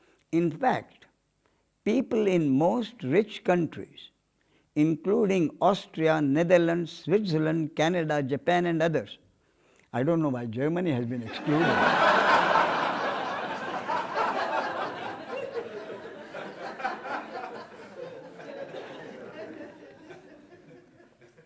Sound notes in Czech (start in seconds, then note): 15.1 smích